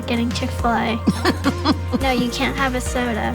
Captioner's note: laughs